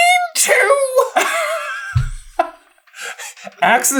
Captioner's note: laughs